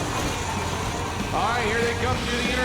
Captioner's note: tires squealing